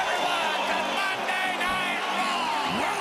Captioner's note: crowd cheering